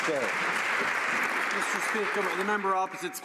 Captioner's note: some Applause